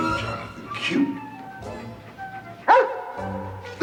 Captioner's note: dog whines